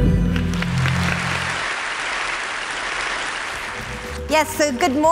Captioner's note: crowd applauding